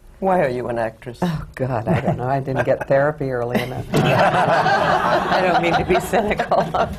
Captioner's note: laughter